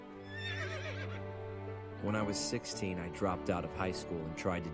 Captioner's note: horse whinnies